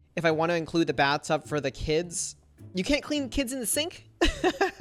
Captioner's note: laughs